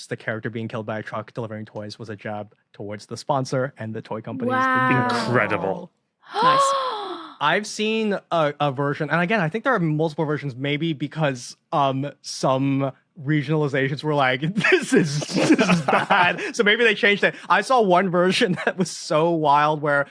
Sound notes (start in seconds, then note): 6.8 gasps; 14.5 both laugh